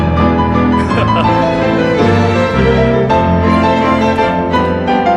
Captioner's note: laughs